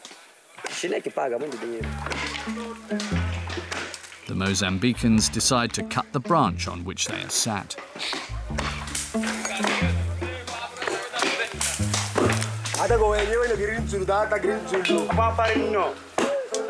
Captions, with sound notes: The Mozambicans decide to cut the branch on which they are sat. [Portuguese spoken audio]